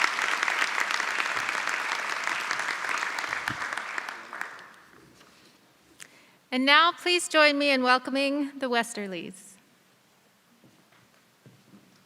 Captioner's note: applause